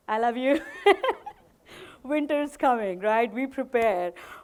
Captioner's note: chuckles